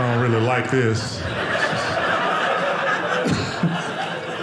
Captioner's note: audience laughing